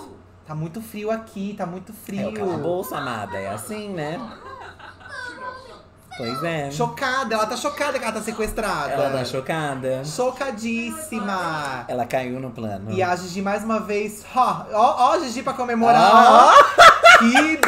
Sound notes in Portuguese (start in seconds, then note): 2.3 Sims conversam; 15.9 risada